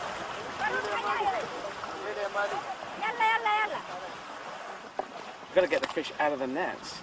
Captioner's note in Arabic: بالثرثرة بلغة أجنبية